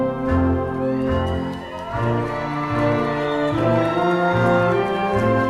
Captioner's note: crowd cheering